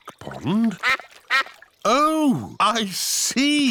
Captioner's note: quacking